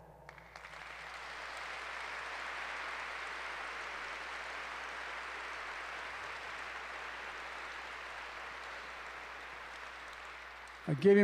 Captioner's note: applause